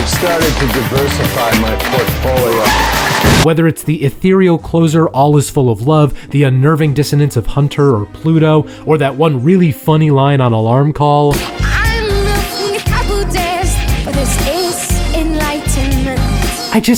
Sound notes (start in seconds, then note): 2.5 tires squealing